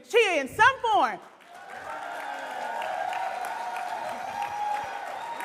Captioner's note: audience cheering